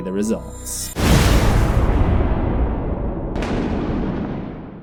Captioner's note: thunder